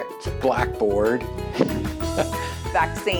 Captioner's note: laughs